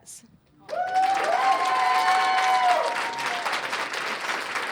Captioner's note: cheers and applause